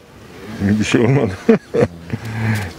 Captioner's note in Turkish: Gülme sesi